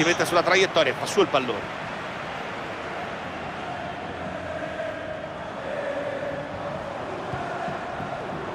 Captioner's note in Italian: Applauso